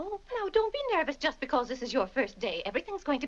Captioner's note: none